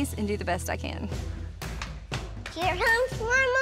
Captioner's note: footsteps